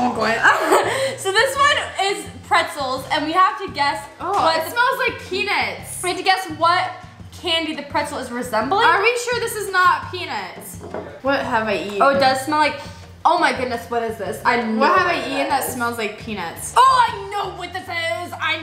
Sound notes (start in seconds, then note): 0.4 laughs; 11.1 sniffs